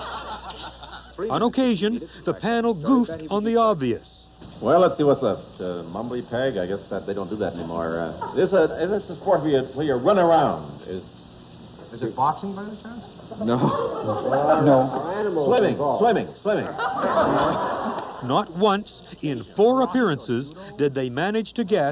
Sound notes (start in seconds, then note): 0.0 laughter; 13.3 laughs; 16.7 laughter